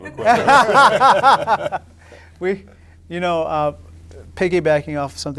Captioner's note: audience laughing